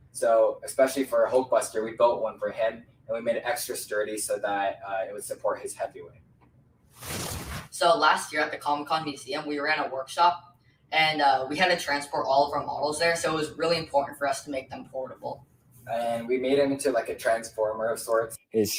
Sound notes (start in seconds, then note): 7.0 whooshing